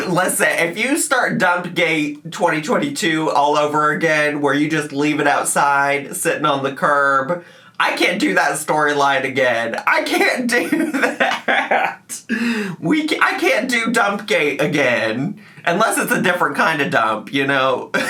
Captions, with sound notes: - Listen, if you start Dump Day 2022 all over again, where you just leave it outside sitting on the curb, I can't do that storyline again. (laughing) I can't do that. I can't do dump gate again. Unless it's a different kind of dump, you know.